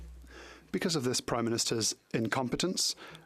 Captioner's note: speaking French